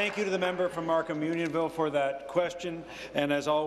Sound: applause

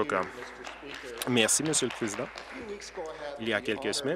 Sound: applause

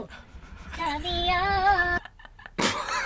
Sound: bursts out laughing; chuckles

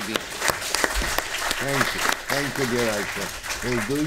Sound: applause

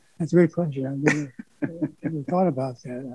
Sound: laughs

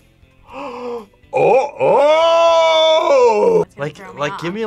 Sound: gasps

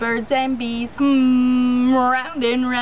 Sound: humming

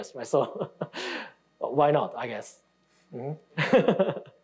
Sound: laughing

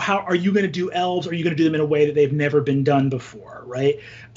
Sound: none

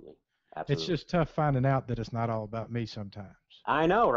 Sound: voiceover

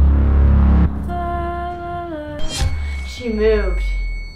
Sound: hums

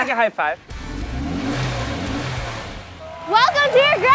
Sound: car engine revving

